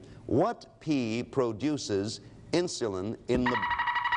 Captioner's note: alarm sounds